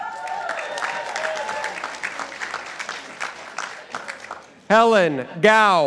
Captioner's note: participants applauding